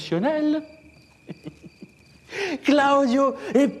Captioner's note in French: Rire